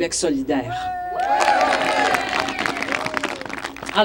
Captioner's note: applauses